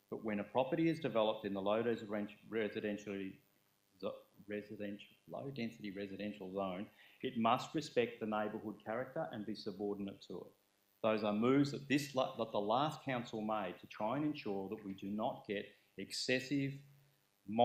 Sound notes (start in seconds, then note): none